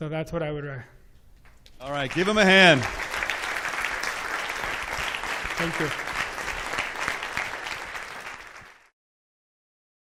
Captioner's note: clap